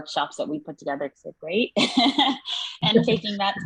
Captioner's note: laughs